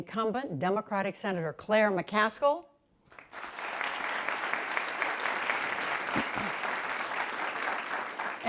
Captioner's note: applause